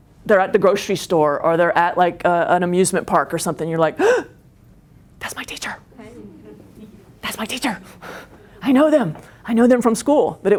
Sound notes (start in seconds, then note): 4.0 gasps